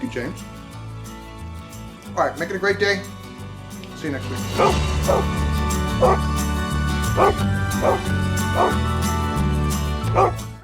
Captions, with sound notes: Thank you, James. All right, make it a great day. See you next week. (dog barking) (upbeat music)